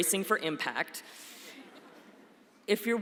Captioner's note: laughter